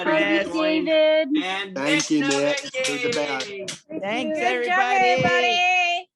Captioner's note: everyone indistinctly talking